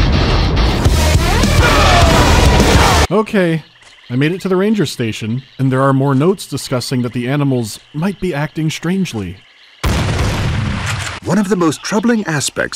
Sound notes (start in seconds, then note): 9.8 bang-bang